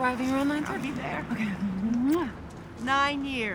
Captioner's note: smooch